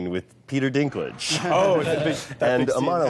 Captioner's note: all laughing